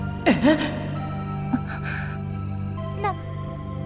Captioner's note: gasp